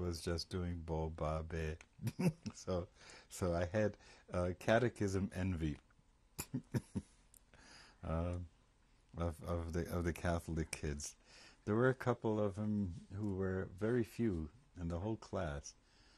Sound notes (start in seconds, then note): 6.4 laughs; 11.7 laughter